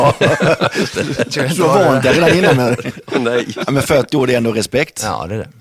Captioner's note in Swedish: hahahaha